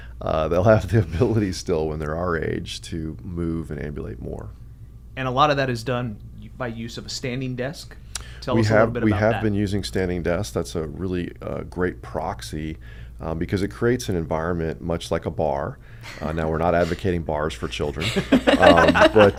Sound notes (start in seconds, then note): 16.2 laughs; 18.0 both laugh